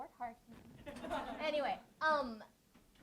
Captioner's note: audience laughs